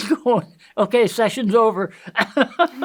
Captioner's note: laughs